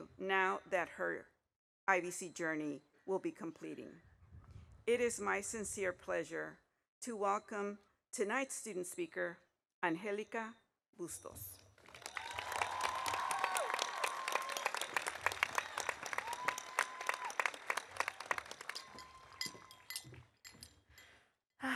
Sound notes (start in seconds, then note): 11.8 audience applauding; 12.0 audience cheering